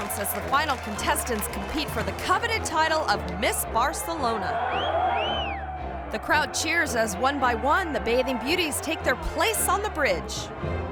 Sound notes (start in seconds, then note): 4.6 spectator whistling